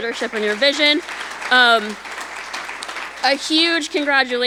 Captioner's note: audience applauding